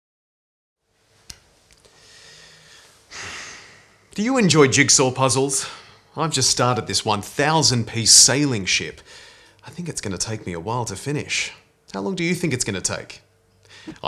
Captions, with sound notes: (person exhaling) - Do you enjoy jigsaw puzzles? I've just started this 1000 piece sailing ship. I think it's going to take me a while to finish. How long do you think it's going to take?